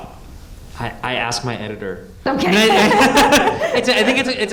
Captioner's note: laughs